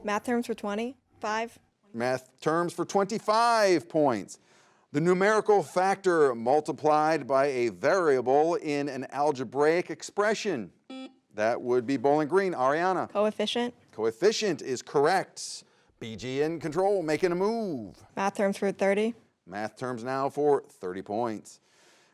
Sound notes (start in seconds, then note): 10.9 buzzer buzzes